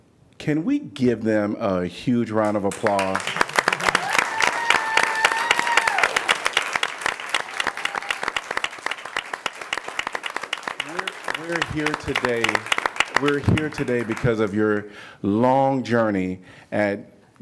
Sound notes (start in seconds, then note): 2.4 applause